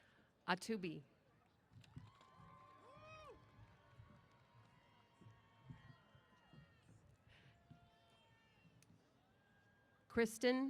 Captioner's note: cheers